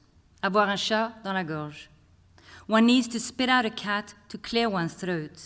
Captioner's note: non-english speech